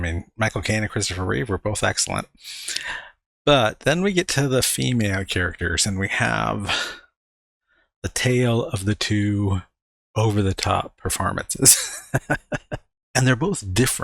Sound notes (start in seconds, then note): 11.6 laughing